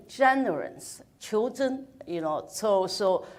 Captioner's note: speaks in foreign language